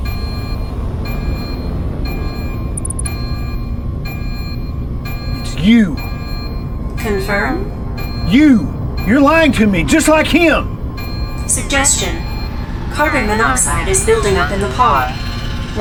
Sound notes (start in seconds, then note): 0.2 alarm blaring; 0.2 tense music; 2.7 device clicking